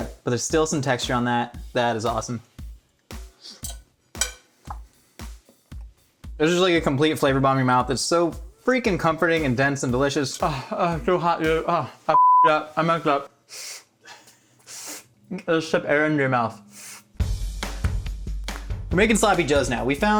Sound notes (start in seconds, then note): 12.1 beep; 17.2 upbeat music